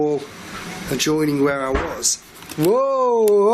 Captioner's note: loud banging